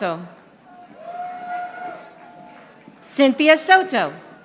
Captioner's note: audience applauding